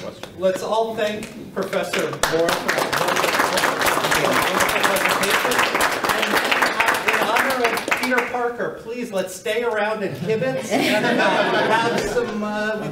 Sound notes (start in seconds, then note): 1.7 applause